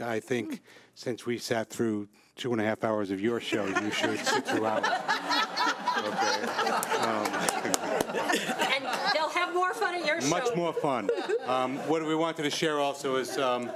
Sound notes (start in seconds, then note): 5.2 everyone laughing